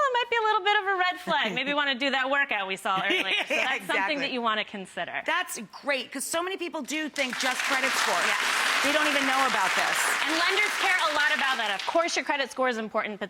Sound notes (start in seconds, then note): 3.0 laughs